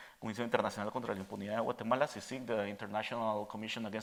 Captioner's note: speaking Spanish